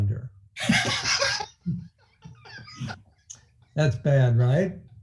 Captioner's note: laughing